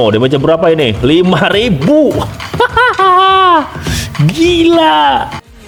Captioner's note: laughs